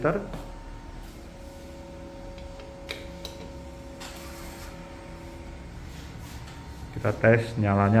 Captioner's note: printer machine noise